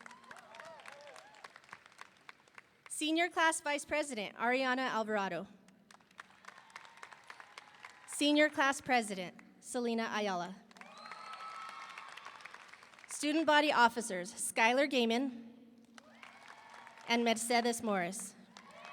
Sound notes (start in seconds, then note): 0.0 audience cheering; 0.0 audience applauding; 5.9 audience applauding; 6.5 audience cheering; 10.7 audience applauding; 10.8 audience cheering; 16.0 audience applauding; 16.1 audience cheering